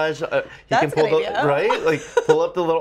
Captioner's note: laughs